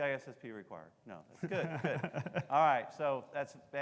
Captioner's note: laughing